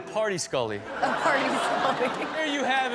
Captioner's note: audience laughs